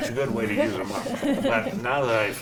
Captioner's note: panel laughs